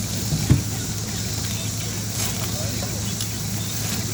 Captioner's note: the sound of the lamb skewers sizzling